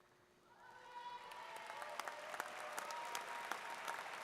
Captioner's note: audience claps